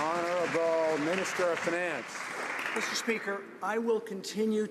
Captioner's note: some Applause